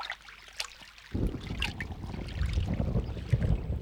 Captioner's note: thunder rumbling